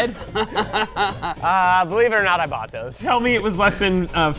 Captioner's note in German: lacht